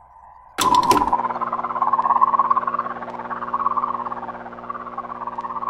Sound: Static

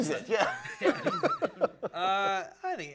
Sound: laughter

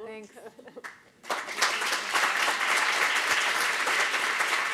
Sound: applause

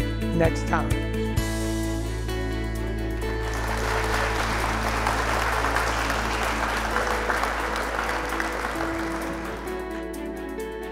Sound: applause

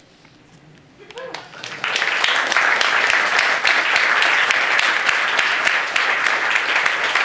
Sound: applause

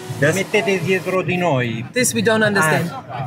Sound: police officer speaking in Italian

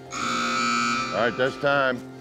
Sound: buzzer sounds

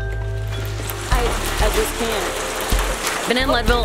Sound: sound of rain

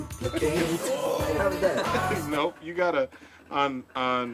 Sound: laughs

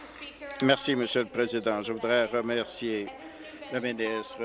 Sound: applause

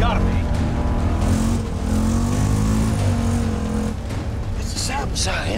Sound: engine revs

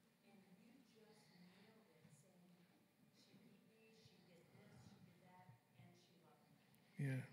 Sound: very quiet

